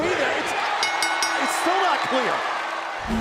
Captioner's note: bell